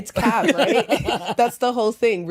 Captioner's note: laughter